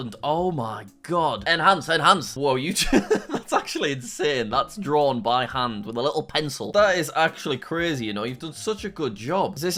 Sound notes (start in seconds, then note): 2.7 laughing